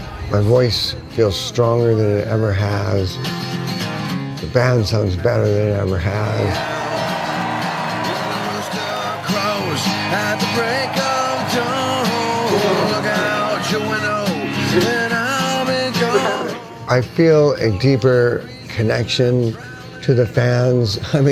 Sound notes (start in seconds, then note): 6.7 audience cheering